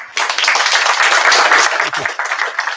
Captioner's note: applause